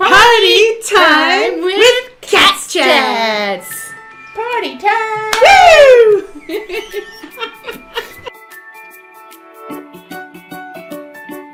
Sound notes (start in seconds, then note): 6.0 both laughing; 8.6 upbeat music